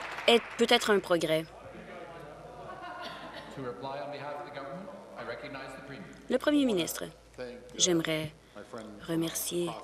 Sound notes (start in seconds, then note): 0.0 applause